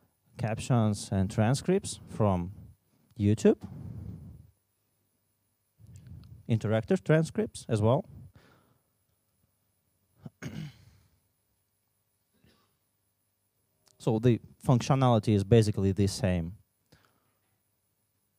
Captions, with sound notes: transcripts from YouTube. And director's transcripts as well. [COUGH] So the functionality is basically the same.